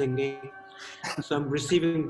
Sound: all laugh

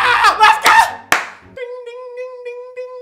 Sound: claps

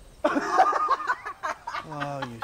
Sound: Ensa laughs

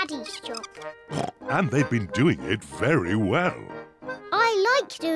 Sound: oinks

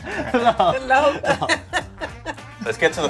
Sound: all chuckling

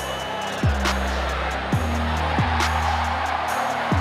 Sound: crowd Noise

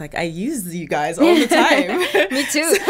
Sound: both laughing

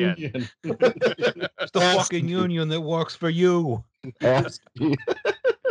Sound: laughter; laughter

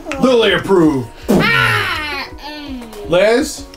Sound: screams

